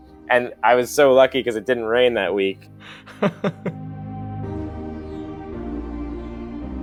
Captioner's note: voiceover